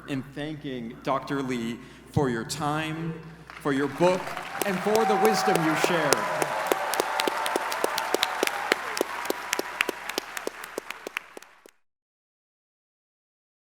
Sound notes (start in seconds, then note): 6.8 audience cheering